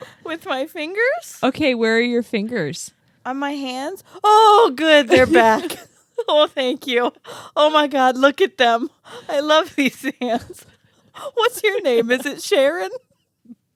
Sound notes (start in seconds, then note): 5.3 laugh